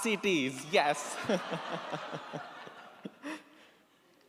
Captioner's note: laughs